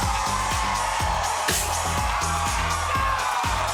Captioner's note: cheering; upbeat music